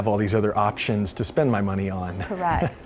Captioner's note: laughs